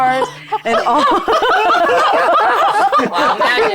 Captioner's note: players laughing